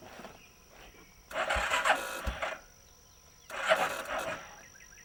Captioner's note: engine cranks